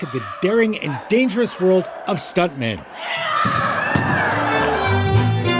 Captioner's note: screaming